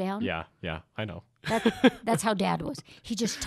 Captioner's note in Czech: Chichotá se